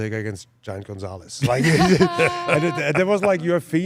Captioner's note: hosts laugh